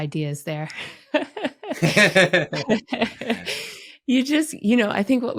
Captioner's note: laughing